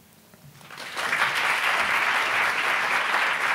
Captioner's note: applauding